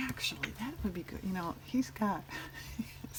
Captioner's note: laughs